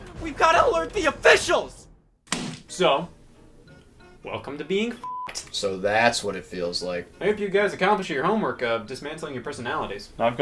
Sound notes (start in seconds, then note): 5.0 beep